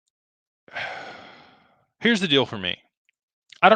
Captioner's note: sighs